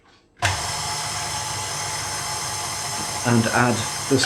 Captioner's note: mixer whirring